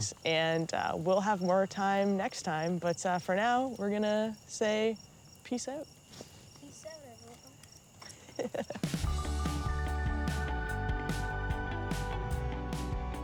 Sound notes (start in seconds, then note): 8.0 laughing; 9.0 inspiring music